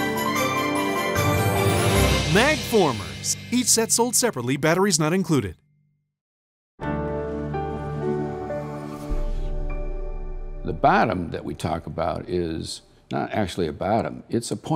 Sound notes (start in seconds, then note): 3.1 voiceover; 9.0 bright news music